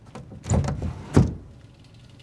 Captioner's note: window thuds